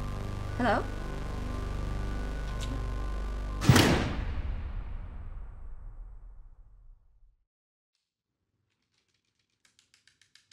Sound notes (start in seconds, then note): 3.6 bang